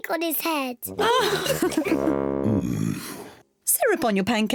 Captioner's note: kids and mummy pig laugh